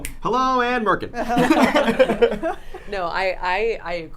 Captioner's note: people laughing